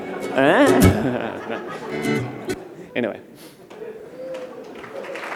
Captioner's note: applause